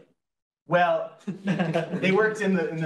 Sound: laughs

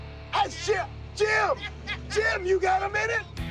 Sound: laughing

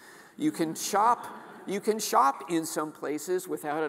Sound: audience laughing

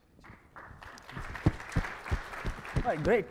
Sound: audience clapping

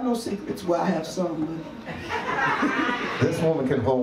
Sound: audience laughs

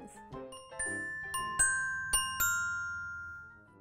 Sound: bells chime

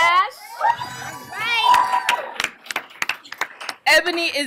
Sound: applause

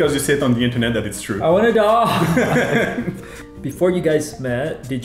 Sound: both laugh

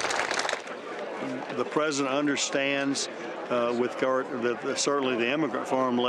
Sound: applause

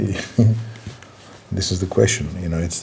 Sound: laughs

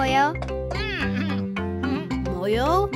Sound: both chuckling; Moyo chattering

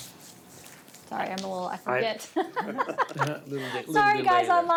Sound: laughs

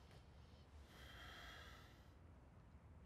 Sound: sighs

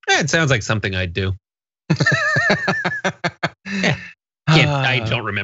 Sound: laugh

